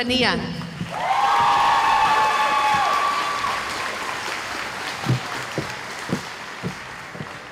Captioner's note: cheering